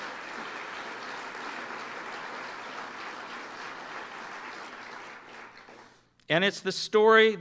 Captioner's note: applause